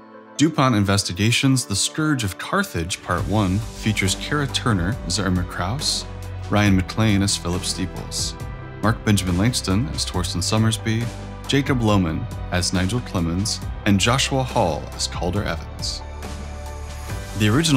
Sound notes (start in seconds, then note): none